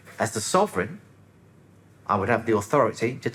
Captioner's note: none